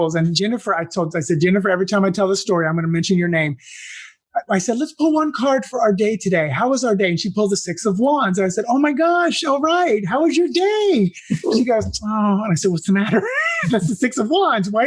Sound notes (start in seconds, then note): 11.1 laugh